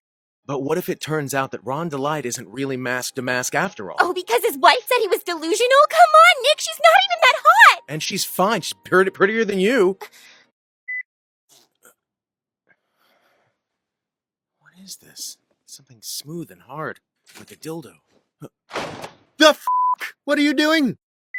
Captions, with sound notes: -But what it turns out that Ron DeLite isn't really Mask DeMasque after all? -Oh, because his wife said he was delusional? Come on Nick, she's not even that hot! -And she's fine, she's purdy- prettier than you! [gasp] [zipper] -What is this? Something smooth and hard... like a dildo. -The f*ck, what are you doing?